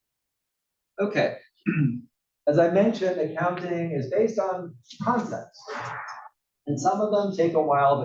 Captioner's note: cough